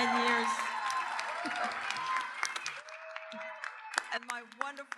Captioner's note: audience cheers and applauds